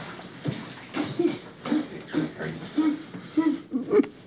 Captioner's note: Gavin crying